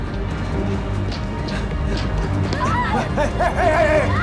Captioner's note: screams